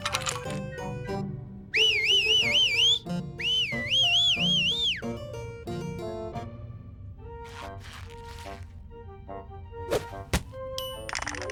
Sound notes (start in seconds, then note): 3.4 whistles victoriously